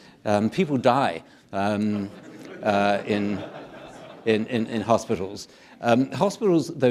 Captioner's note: audience laughing